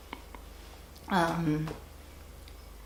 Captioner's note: voice breaks